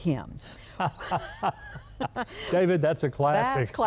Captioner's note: both laughing